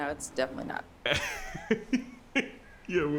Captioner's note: Mr. Machen laughs